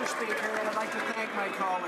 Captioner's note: some Applause